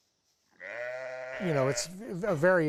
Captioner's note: sheep baaing